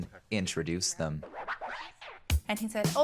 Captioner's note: record scratch